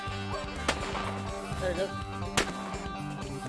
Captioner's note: gun fires